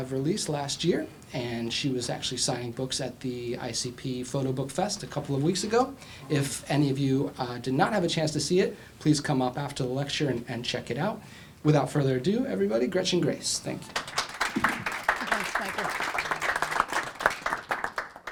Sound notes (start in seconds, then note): 13.9 applause